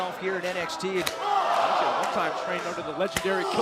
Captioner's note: crowd cheering